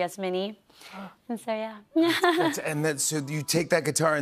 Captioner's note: chuckles